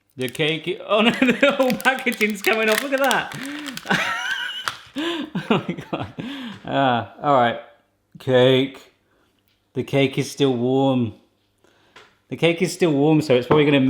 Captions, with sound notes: The cake, oh-no the whole packaging's coming out, look at that! (laughing) Oh my God. Ah, alright. Cake. The cake is still warm. The cake is still warm so it's probably